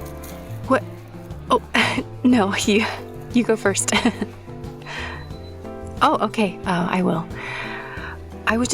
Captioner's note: laughs